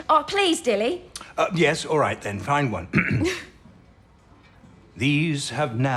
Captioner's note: he clears his throat